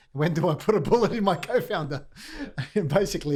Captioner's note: laughing